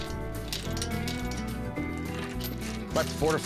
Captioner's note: chain clinks